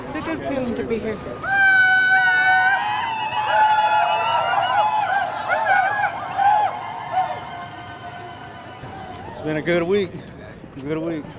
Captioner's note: victory shouts